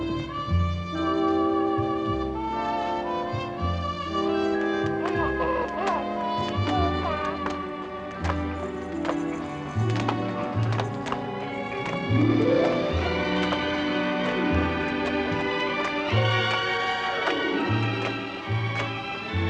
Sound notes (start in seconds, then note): 4.6 baby Cooing